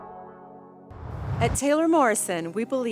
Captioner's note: whoosh